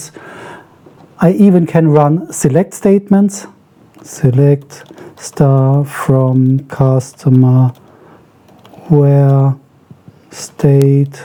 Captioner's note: typing